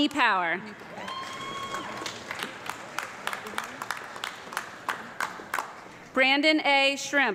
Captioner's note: audience clapping and screaming